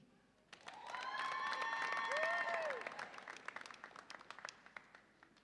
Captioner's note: audience applauds and cheers